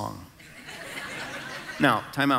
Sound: congregation laughing

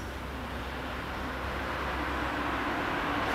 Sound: traffic roar

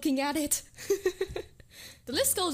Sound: hehehehe

